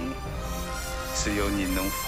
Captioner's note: galley creaking